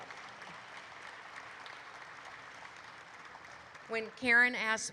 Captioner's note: audience applauds